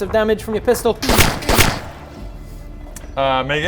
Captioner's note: pew pew